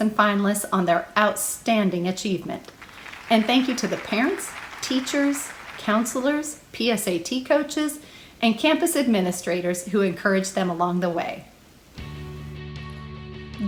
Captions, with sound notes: Finalists on their outstanding achievement, [applause] and thank you to the parents, teachers, counselors, PSAT coaches,and campus administrators who encourage them along the way. [rock music]